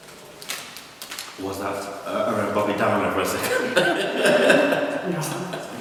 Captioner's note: laughter